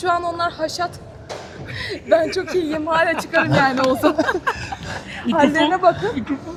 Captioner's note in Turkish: kahkaha